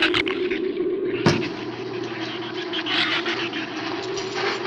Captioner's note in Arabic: زئير الزبابة; هسهسة النيران